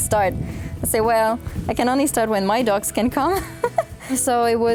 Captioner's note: laughs